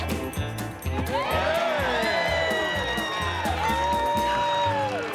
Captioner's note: cheering